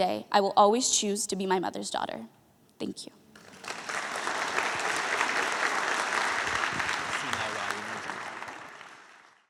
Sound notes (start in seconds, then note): 3.3 applause